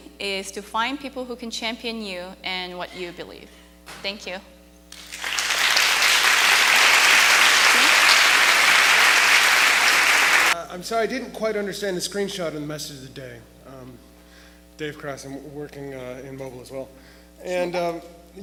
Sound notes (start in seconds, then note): 4.9 audience clapping